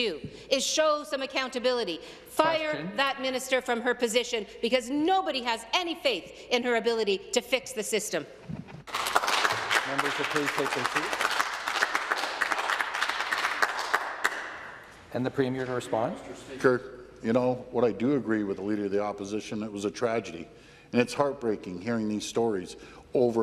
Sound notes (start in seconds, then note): 11.5 some Applause